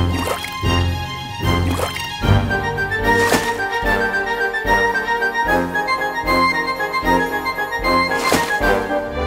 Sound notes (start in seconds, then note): 0.1 bubbling sound; 1.4 water splash sound; 1.6 bubbling sound; 8.1 water splash sound